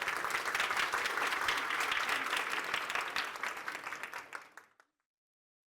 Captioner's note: applause